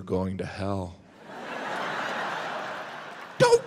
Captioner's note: audience laughs